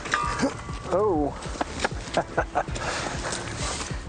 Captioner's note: laughs